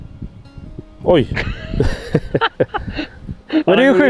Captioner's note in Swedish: Skratt